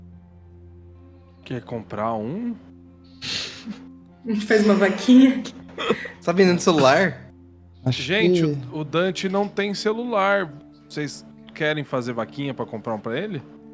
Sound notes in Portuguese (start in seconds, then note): 3.4 Risos